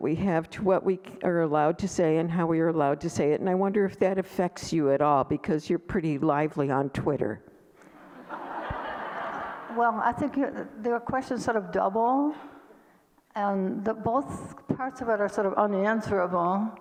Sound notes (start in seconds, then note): 7.9 audience laughter